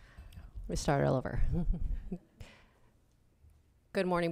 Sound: giggles

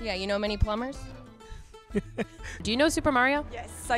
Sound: laughing

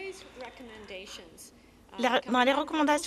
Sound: some Applause

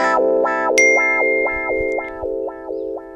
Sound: notification tone rings

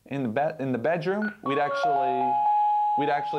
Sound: digital chimes

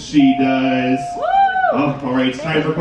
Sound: bell pings

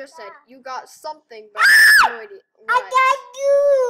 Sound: loud Scream

